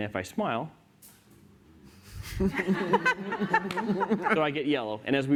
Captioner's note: laughter